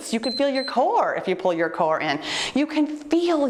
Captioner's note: timer beeps